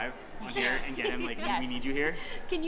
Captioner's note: laughing